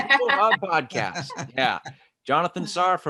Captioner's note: laughing